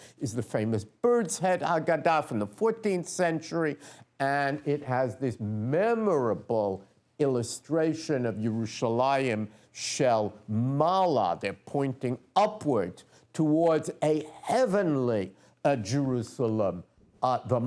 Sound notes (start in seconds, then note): 8.6 non-english speech